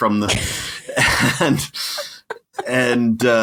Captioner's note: both laughing